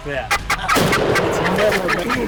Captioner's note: gunshot